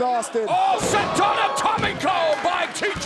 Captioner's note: speaks Spanish